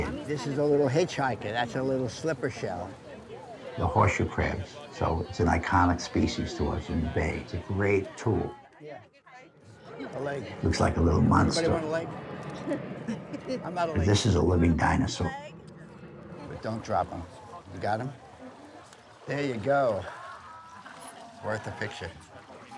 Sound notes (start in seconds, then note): 8.9 people chattering; 12.5 child chuckles